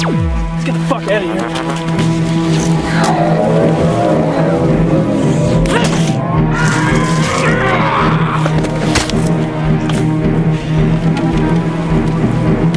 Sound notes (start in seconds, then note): 6.7 screams